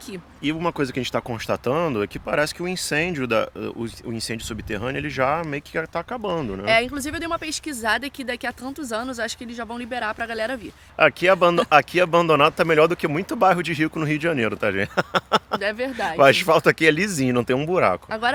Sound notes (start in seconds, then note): 14.7 laughter